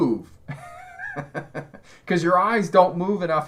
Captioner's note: laughs